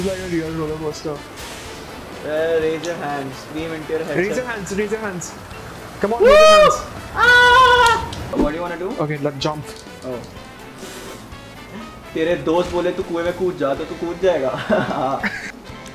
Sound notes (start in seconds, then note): 0.0 speaking foreign language; 6.0 man yelling; 12.2 speaking foreign language